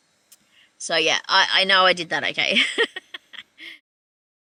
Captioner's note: laughing